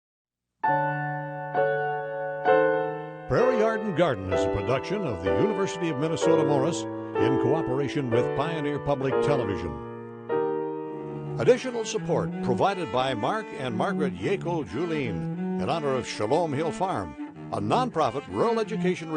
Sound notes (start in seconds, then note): 0.7 gentle piano music; 3.4 voiceover